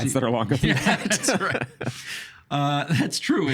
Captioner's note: laughing